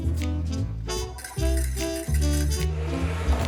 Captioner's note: fork whisking